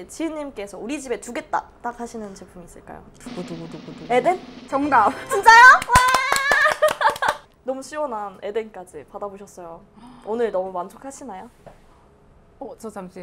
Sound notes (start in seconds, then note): 3.2 drum Rolls; 5.7 round of applause